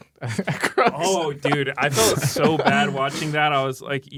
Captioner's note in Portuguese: risos